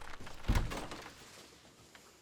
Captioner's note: door opens